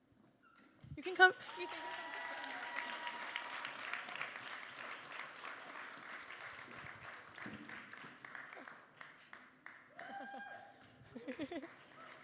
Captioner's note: applause